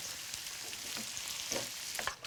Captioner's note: sizzling